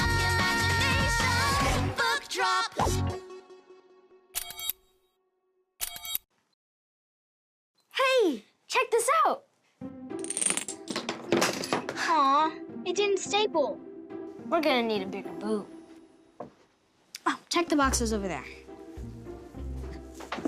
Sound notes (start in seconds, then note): 4.4 electronic camera clicking; 9.9 upbeat music; 10.2 dominoes clicking